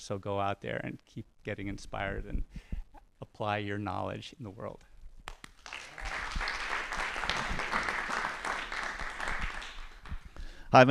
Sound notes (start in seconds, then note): 5.2 applause